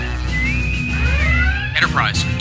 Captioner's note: bosun whistle